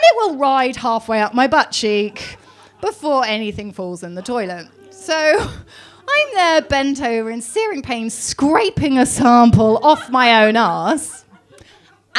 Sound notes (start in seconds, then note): 5.2 laughs